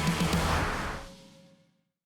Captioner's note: whoosh